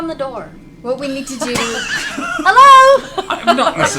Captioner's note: laughter